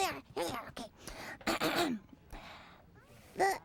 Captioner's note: clears throat